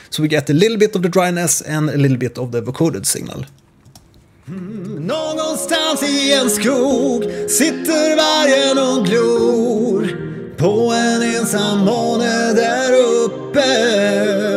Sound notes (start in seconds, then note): 4.5 55% vocoded vocals...nice harmonizer sound